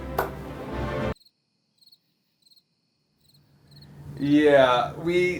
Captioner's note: insects stridulating